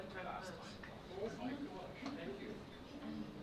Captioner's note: murmuring